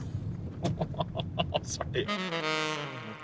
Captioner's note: laughing